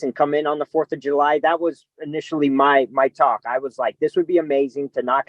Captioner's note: none